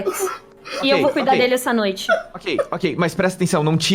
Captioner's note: cries